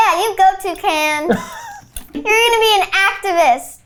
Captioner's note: laughs